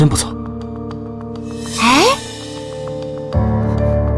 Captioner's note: sigh